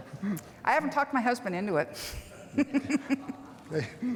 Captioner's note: laughs